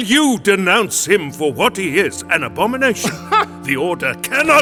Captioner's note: laughs